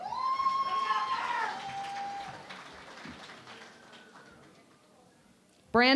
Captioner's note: cheering and Applause